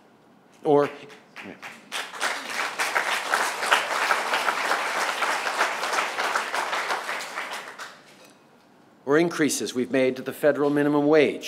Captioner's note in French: Applaudissements